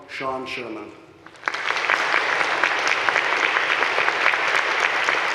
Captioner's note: audience clapping